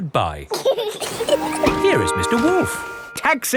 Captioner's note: both laughing